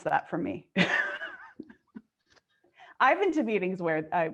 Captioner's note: laughing